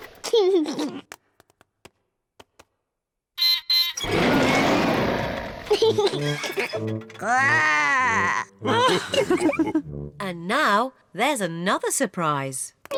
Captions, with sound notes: (LAUGHS) (BEEPS AND ROARS) (LAUGHS) (GROWLS) (ALL LAUGH) And now, there's another surprise.